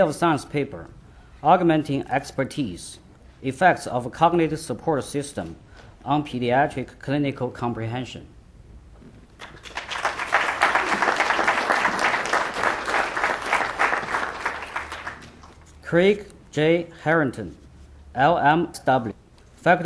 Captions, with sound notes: State of the Science Paper: "Augmenting Expertise: Effects of a Cognitive Support System on Pediatric Clinical Comprehension (applause) Craig J. Harrington, LMSW